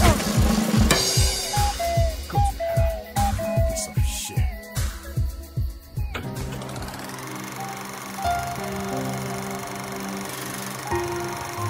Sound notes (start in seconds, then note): 1.0 bird tweeting; 6.1 soft orchestral music; 6.4 reel rattling